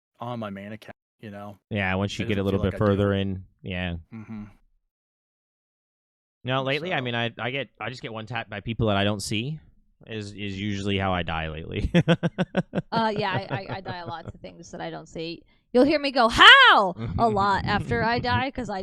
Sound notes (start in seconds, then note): 11.8 laughing